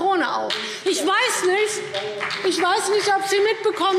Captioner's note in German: Beifall BÜNDNIS 90/DIE GRÜNEN